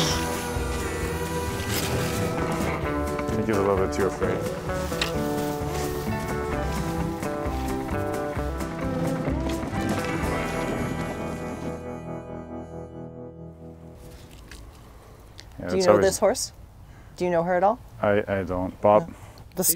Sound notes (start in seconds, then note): 0.1 country western music; 5.3 country western music; 5.3 shovels scooping